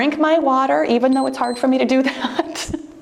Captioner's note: timer beeps